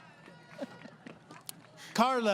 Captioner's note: laughing